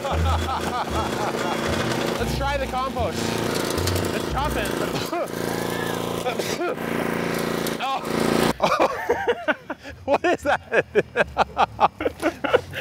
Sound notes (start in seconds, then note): 0.0 all laugh; 5.3 coughs; 8.5 laughs